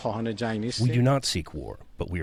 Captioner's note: through translator